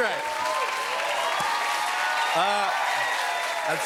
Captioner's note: cheers and applause